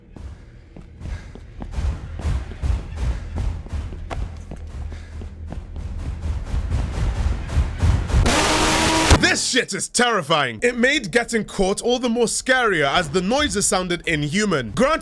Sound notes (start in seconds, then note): 1.7 heavy, clunking footsteps in the distance; 5.8 footsteps rapidly approaching